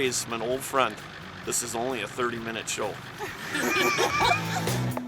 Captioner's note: laughing